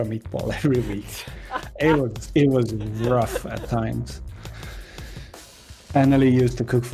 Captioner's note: sympathy laughs